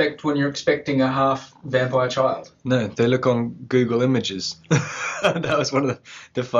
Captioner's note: nervous laugh